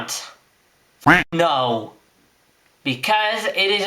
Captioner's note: quack